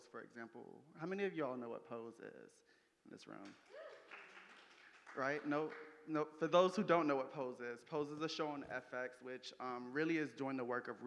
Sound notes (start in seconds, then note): 3.6 audience applauding